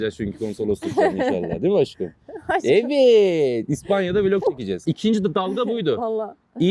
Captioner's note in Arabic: ضحك